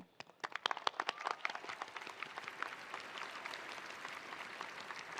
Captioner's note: attendees applauding